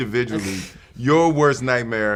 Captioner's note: Jaden Smith scoffs